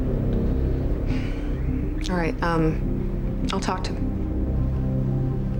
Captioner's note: sighs